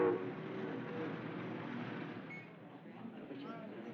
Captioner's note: people Chattering